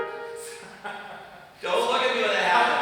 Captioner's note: laughing